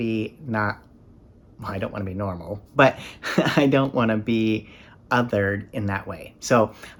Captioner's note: chuckles